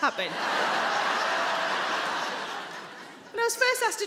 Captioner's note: audience laughing